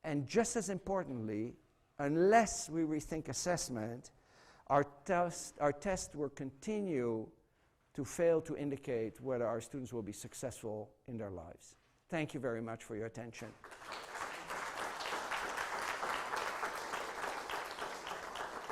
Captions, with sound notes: And just as importantly, unless we rethink assessment, our tests will continue to fail to indicate whether our students will be successful in their lives. Thank you very much for your attention. [APPLAUSE]